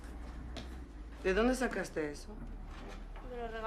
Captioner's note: spanyol